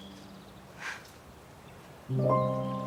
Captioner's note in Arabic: صوت تنفس إفنان